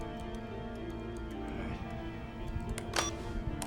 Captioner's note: line disconnects